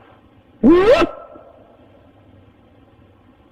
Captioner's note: whooping